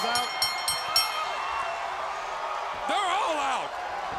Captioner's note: bell ringing